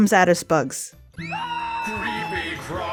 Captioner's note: screams